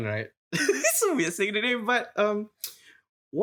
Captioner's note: laughs